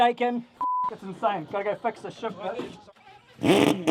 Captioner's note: beep